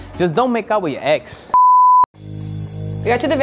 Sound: beep

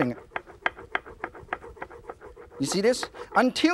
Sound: rolling pin clanging

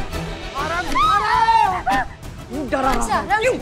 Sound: screaming

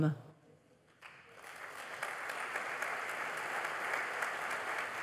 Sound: applause

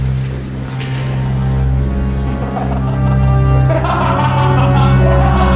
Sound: maniacal laughter

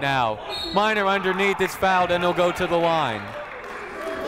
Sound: whistle blowing

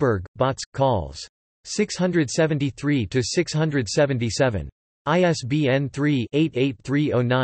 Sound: in German

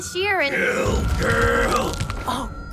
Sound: Goblin Slayer crunching

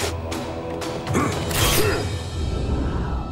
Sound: grunting

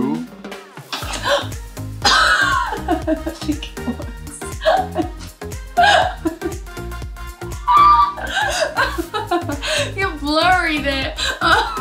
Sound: uncontrollable laughter

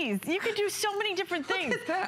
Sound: laughter

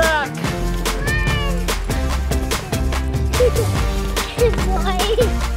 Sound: laughing

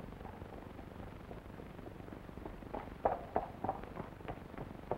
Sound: horse hooves clomping

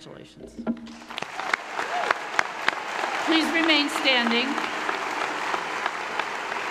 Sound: audience applauding

